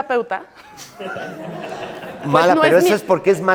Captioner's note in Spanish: Risas